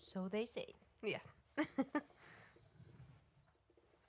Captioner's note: chuckles